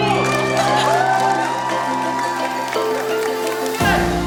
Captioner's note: applause